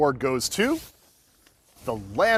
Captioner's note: cover swashing